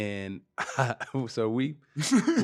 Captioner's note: laughing